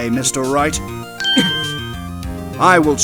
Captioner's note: surprised grunt!